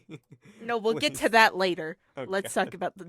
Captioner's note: laughter